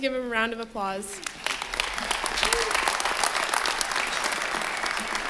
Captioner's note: applause